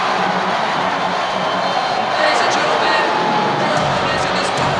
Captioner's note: audience cheers; upbeat music